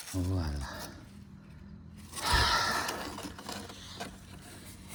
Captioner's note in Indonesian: menghela napas